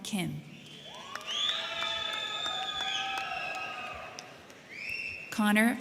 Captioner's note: crowd clapping; crowd cheering